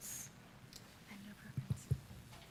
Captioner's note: whispering